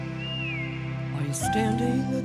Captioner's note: whistle